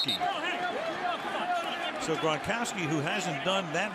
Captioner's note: onfield chatter